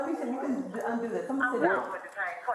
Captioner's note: radio chatter